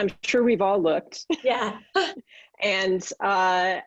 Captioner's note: laughs